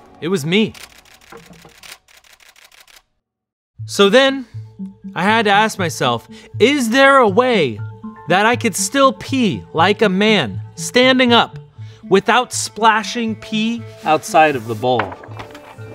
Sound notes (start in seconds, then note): 0.0 intense music; 0.7 camera shutter clicking